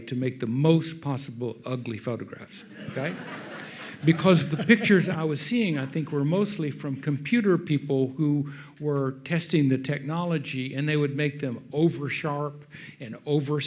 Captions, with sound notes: to make the most possible ugly photographs," okay? (audience laughs) Because the pictures I was seeing I think were mostly from computer people who were testing the technology and they would make them oversharp and oversaturated